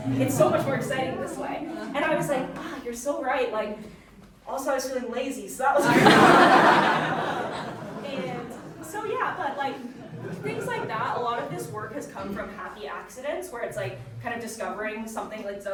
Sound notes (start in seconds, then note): 5.8 audience laughing